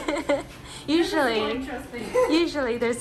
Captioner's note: laughing